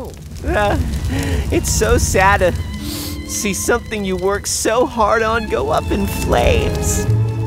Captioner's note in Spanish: se lamenta; se suena los mocos